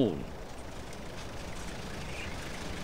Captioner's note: truck rattling